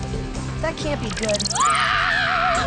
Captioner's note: scream